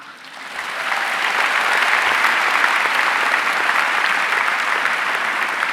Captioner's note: audience cheering and applauding